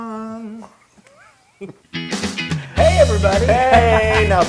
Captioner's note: laugh